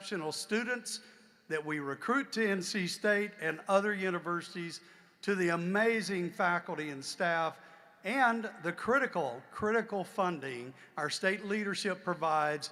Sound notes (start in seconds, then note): none